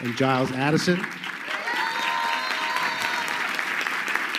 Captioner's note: crowd clapping